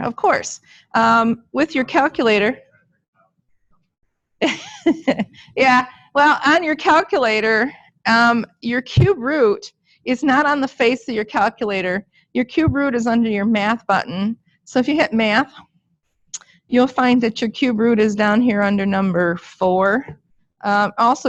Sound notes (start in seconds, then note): 4.4 chuckling